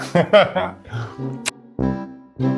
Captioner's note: laughs; intriguing music